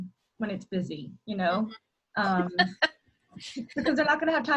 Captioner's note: laughter